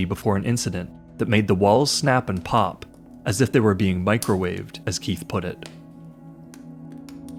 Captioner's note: crackling